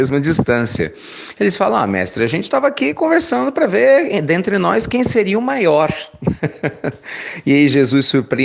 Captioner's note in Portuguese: risos